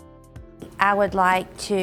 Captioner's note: voice-over